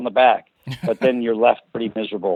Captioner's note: laughs